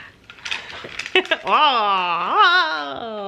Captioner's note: laughing